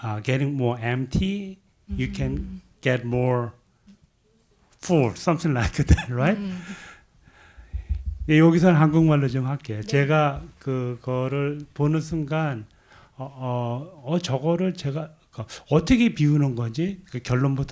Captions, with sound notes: "Getting More Empty, You Can Get More Full," something like that, right? (audience member speaking in Korean)